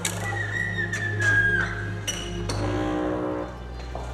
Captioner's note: door creaks